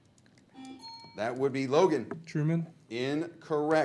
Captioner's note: group conversing quietly; buzzer blares